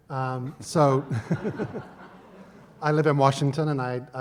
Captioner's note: laughs